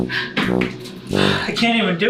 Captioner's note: he breathes heavily